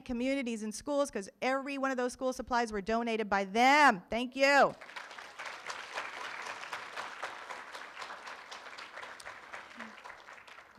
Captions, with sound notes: Communities In Schools, 'cause everyone of those school supplies were donated by them, thank you. (room applauds)